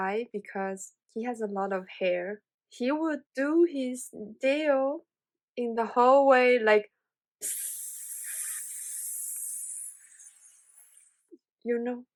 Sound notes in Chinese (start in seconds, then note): 7.4 噴的嘶嘶聲